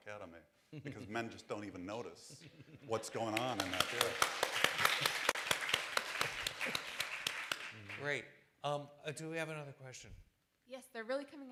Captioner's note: applause